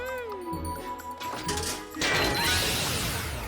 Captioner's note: energy hums